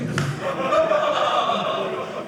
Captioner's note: audience laughing